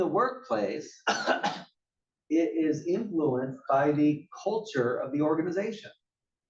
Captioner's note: cough